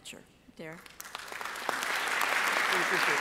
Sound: audience applauding

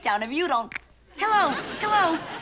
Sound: click

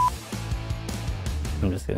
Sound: beep

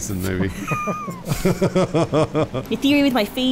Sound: laughter

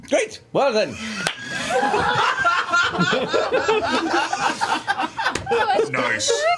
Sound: all laugh

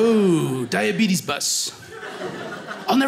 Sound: audience laughing

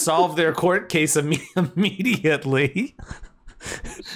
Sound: laughs

